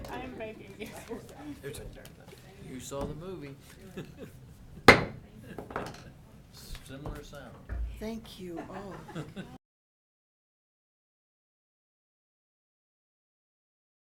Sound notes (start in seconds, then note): 4.8 gavel banging